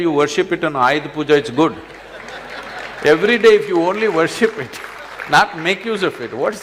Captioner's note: laughter/Applause